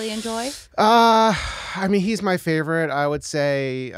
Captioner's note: sighing